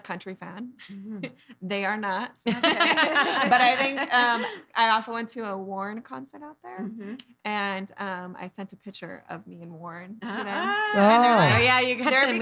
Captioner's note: laughing